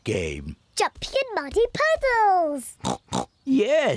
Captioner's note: snorts